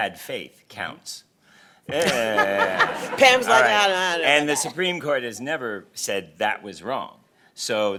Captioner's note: laughter